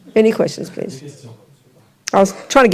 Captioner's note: audience member speaks in French